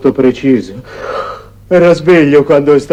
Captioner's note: yawn